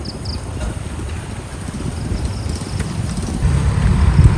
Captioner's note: the sound of crickets hissing as it gets darker